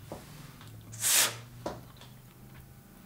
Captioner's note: blowing